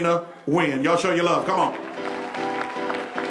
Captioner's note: applause